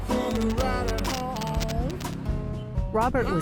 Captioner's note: static buzzes